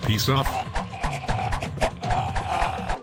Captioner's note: jester choking